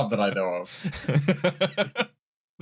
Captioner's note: laughter